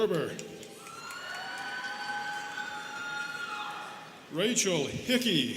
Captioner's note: students cheering